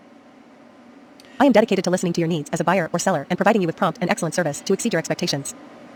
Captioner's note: computer voice